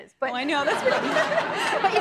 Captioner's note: laughs